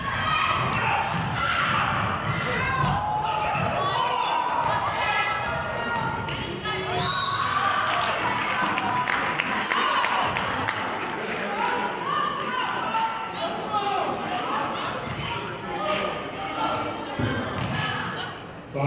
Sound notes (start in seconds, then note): 6.9 whistle blows; 8.4 clapping